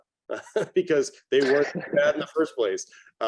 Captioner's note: chuckling